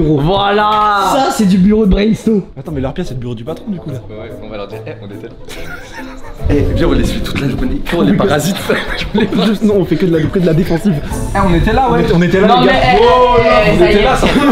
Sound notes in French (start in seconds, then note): 5.4 rire; 8.8 rires